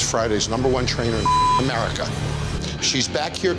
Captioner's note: beep